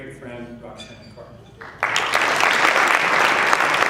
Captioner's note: applause